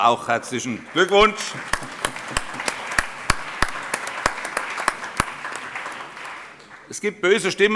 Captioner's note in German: Allgemeiner Beifall